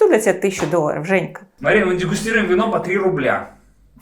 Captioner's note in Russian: закадровый голос